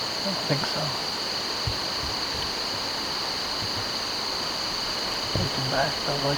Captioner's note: insects